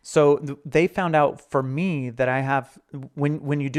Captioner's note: none